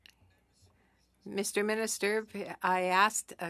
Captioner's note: speaking French